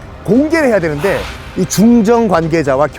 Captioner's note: sigh of anger